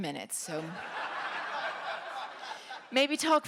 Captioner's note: laughter